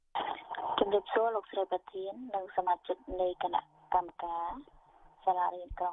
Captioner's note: speaking in a foreign language